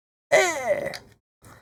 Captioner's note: grunts